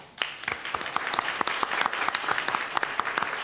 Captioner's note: clapping